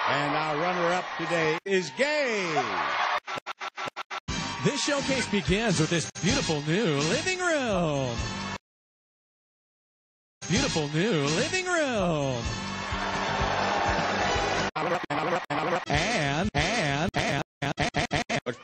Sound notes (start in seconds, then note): 3.2 cheering stutters; 8.7 silence; 12.4 crowd boos